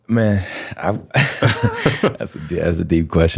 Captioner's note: laughter